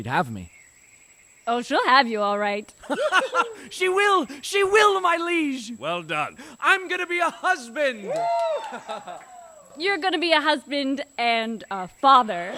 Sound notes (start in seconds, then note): 7.8 cheering